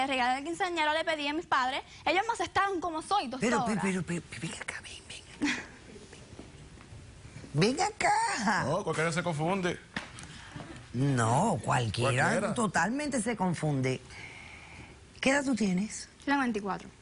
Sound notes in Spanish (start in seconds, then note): 5.7 Susurra